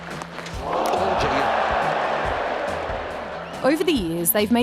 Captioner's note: crowd exclaim